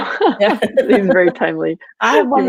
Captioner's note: laughing